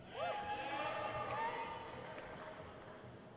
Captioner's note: crowd cheers